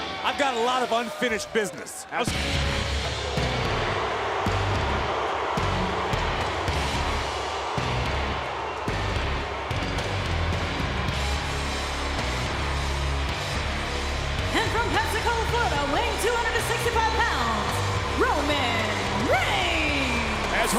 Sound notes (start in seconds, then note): 5.9 audience jeering